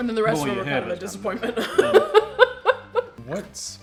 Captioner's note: laughs